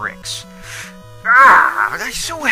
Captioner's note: sharp inhale